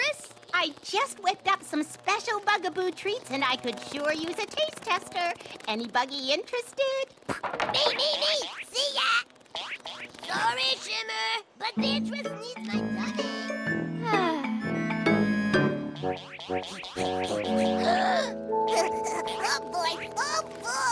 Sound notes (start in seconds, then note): 14.0 sighs; 17.7 excited gasps